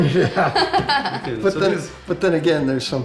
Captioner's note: laughs